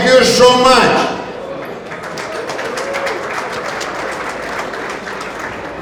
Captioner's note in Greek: χειροκροτημα